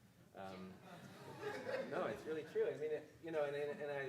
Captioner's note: audience laughing